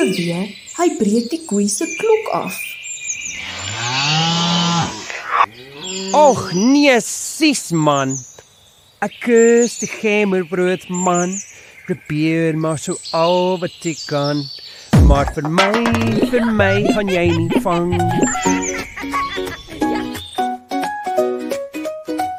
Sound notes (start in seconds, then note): 3.3 cows moo